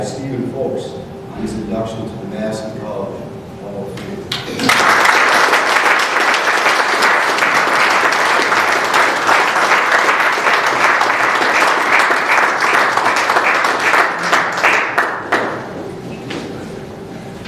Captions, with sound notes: Steven Foulks on his induction to the Madison College Hall of Fame. [APPLAUSE]